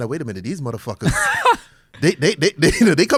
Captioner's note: laughs